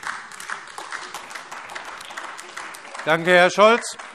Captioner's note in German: Beifall AfD